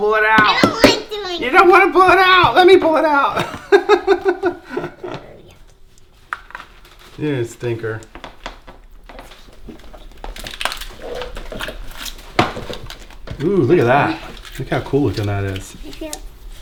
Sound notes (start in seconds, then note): 3.3 laughing; 8.0 banging and squishing noises